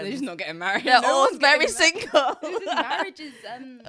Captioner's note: both laughing